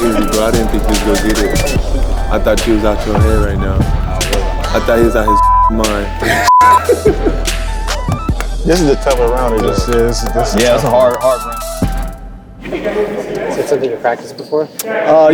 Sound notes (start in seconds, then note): 5.2 beep